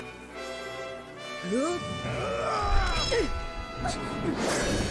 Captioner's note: grunting